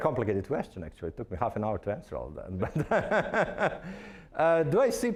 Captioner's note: laughing